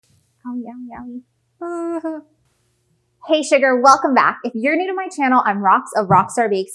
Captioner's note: fixing mic